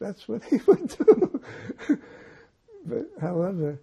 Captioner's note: laughing